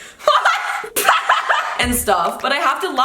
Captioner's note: laughing